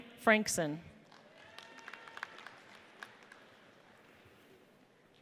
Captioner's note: audience applauds